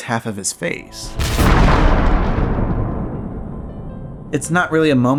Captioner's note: lightning